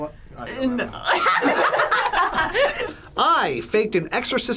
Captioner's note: group laughs